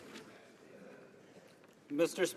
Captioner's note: speaking French